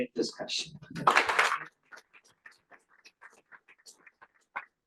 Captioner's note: applause